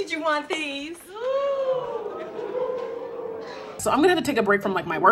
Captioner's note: crowd gasps in shock